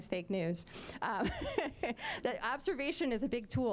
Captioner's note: laughing